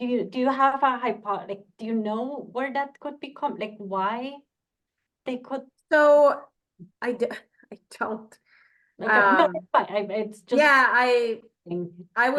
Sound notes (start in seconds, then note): 9.5 mutters